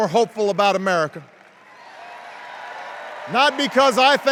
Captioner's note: cheers